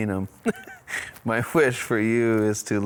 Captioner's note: chuckling